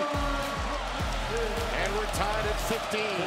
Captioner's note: crowd cheering